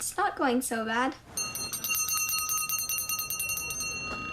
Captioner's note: bell ringing